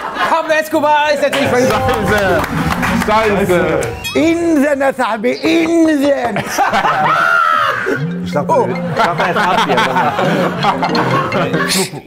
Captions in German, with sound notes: Pablo Escobar ist natürlich völlig richtig. Scheiße. Scheiße. In der Nase hab ich, in der Nase! (Gelächter) (Handyklingeln) Ich dachte erst Abdi ... (Handyklingeln)